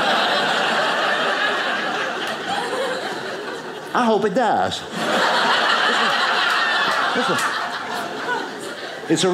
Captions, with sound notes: (audience laughing) I hope it dies. (audience laughing)